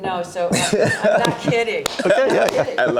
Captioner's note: laughs